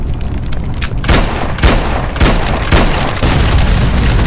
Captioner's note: gun firing